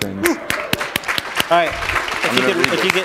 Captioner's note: applause